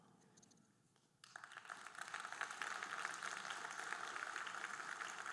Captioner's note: audience applauding